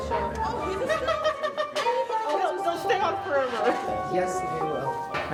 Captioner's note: laughter